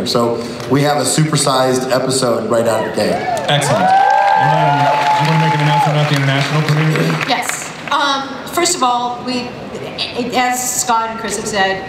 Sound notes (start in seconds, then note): 3.2 audience applauds and cheers